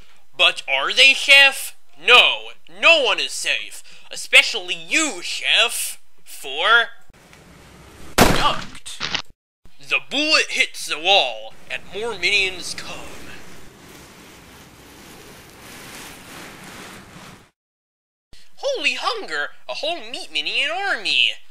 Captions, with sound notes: But are they, Chef? No! No one is safe! Especially you, Chef! For - *Gunshot* Ducked! The bullet hits the wall, and more Minions come... Holy hunger! A whole Meat Minion army!